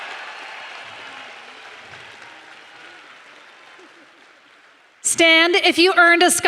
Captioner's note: applause